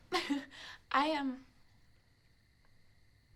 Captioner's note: giggles